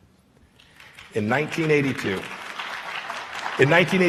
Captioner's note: applause